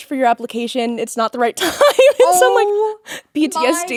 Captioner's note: laughing